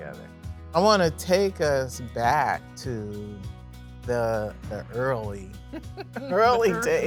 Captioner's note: laughing